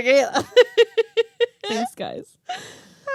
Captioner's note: laughing